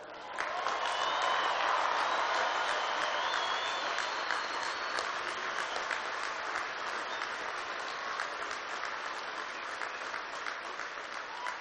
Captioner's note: applause